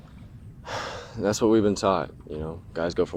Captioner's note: sighs